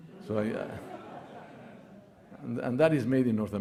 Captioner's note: audience laughing